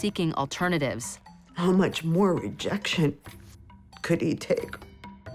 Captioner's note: voice breaks